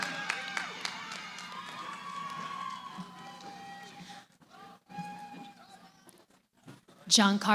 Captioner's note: cheering